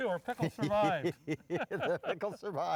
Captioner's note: laughs